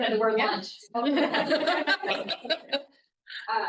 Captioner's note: laughter